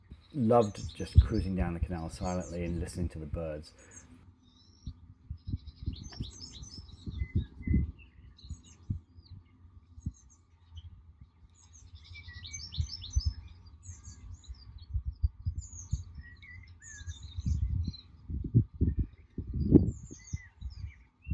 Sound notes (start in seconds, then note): 6.4 birds singing